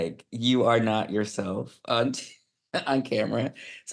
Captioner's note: laughing